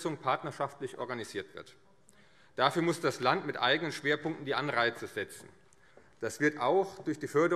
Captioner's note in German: none